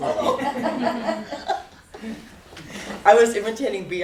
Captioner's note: laughter